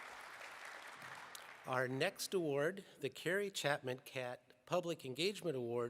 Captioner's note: applause